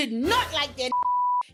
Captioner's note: beep